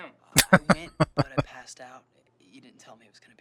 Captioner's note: laughing